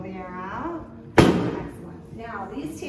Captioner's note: table thump